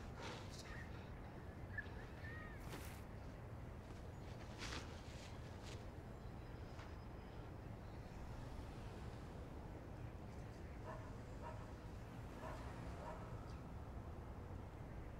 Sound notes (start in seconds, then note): 0.0 Bill breathing heavily; 12.2 dog barking